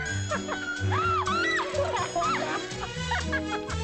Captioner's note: whimsical music; Nellie laughs; Nellie yelps; both laugh